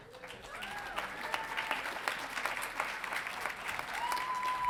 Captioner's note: audience applauding